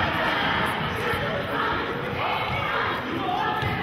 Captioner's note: chanting